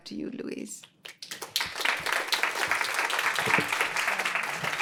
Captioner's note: applause